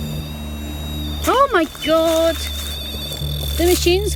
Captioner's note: beep; leaves rustling